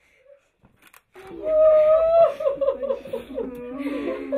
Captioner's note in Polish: płacz